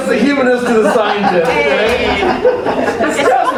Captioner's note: laughter